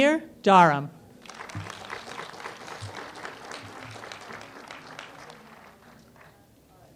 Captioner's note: applause